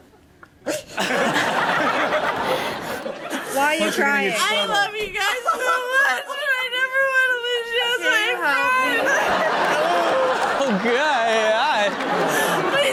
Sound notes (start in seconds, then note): 0.9 all laugh; 8.7 all laugh